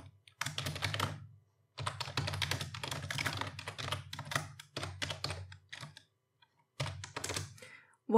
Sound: typing

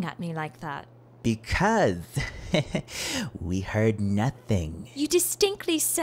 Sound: laughing

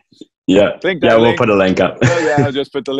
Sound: laughs

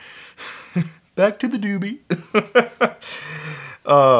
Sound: laugh; laughs

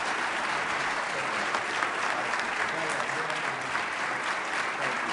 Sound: applause

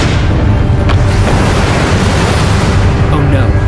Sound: thunder crackles; water splashing

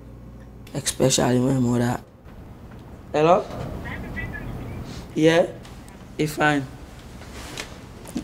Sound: on phone

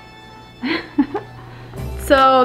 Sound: giggles

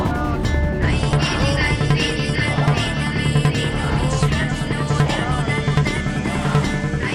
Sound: chants

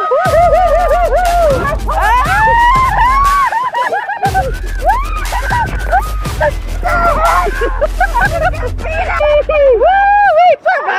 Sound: laughing & Screaming

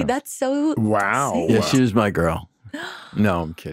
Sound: gasps

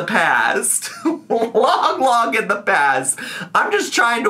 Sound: laughs

